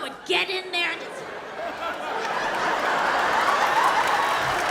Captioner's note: audience laughs